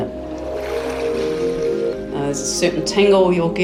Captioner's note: water splashing